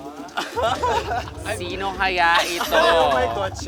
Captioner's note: laughter